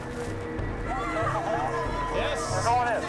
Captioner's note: people shouting